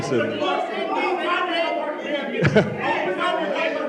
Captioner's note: audience Shouting